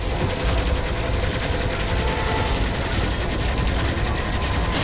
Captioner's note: gameplay playing